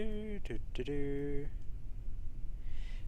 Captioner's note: bad humming